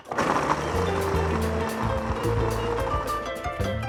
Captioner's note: whirring